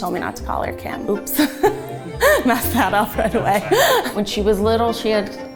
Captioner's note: laughs